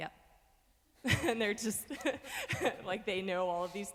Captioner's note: laughs